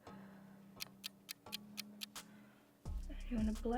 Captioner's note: clock ticks